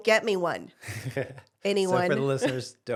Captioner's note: laughs